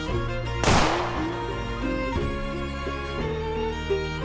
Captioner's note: gunshots banging